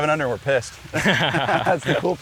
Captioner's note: all Laughing